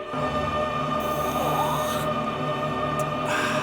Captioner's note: slurps